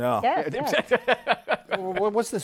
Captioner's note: laughs